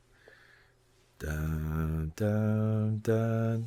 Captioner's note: hums